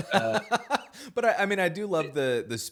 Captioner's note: laughs